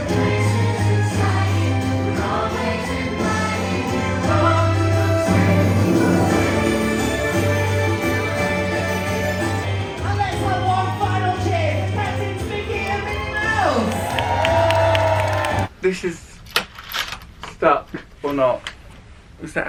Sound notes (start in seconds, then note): 14.6 audience applauding; 14.6 people cheering